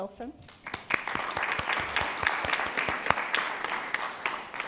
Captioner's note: people clapping